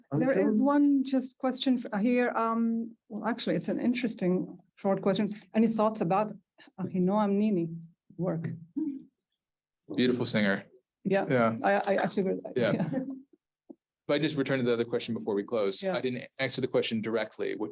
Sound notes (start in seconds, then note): 8.0 Hebrew